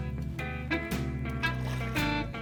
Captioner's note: relaxed country music; water splashing; relaxed country music